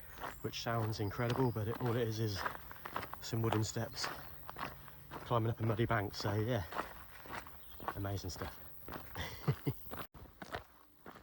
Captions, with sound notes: which sounds incredible but all it is are some wooden steps climbing up a muddy bank so yeah amazing stuff (laughing)